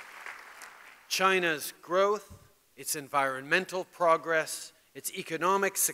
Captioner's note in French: Applaudissements